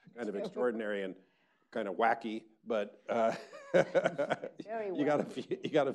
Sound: laughs

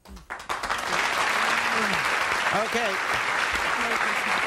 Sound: audience applauding

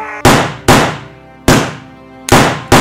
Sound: gun shots; gun shots

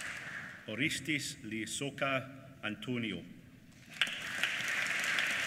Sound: applause

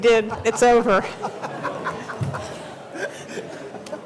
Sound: laughter

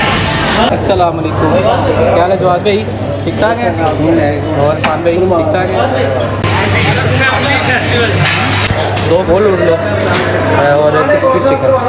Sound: indistinct chattering

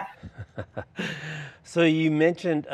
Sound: laughing

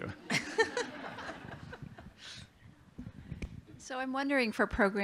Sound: laughter

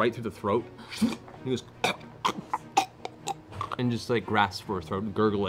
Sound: gurgles and chokes

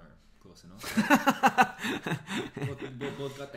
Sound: laughs

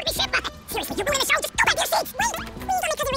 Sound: speaking fast forward

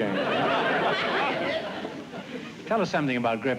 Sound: laughter

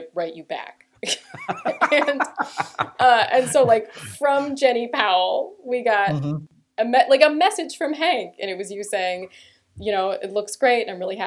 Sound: laughter

